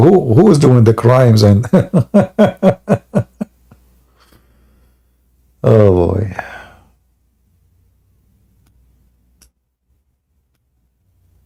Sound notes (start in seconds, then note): 1.6 Ketawa